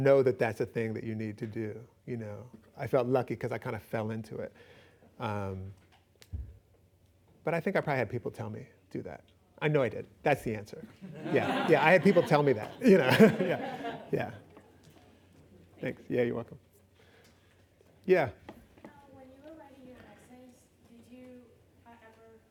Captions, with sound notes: know that that's a thing that you need to do. I felt lucky because I kind of fell into it. But I think I probably had people tell me do that. I know I did. That's the answer. -[laughing] -Yeah. I had people tell me that. [laughs] Yeah. -Thank you. -Thanks. Yeah, you're welcome. Yeah. When you were writing your essays, did you ever...